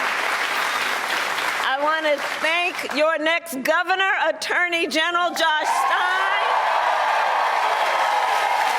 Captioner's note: cheers and applause